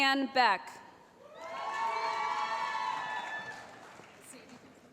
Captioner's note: cheering